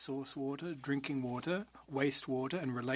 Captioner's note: speaking French